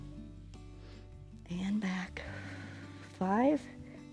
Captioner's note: exhales